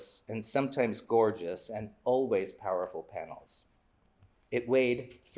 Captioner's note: none